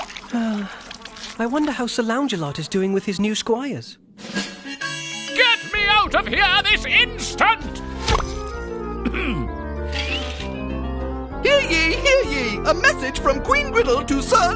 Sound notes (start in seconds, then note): 0.2 sighing; 9.0 clearing throat